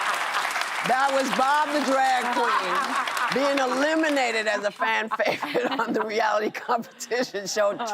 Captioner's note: laughter